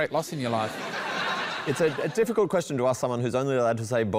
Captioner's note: laughter